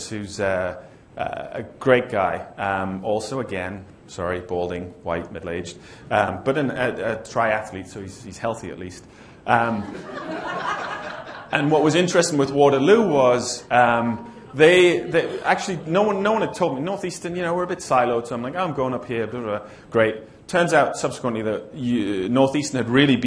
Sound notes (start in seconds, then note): 9.8 laughter